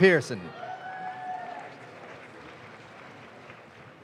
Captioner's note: audience claps